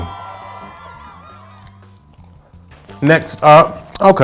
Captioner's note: bell ringing; cheering